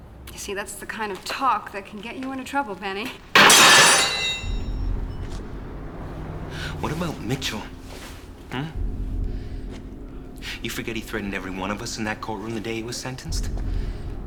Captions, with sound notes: - You see, that's the kind of talk that can get you into trouble, Benny. (wrench clanging) (dramatic music) - What about Mitchell, hm? You forget he threatened every one of us in that courtroom the day he was sentenced?